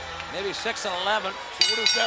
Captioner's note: bell ringing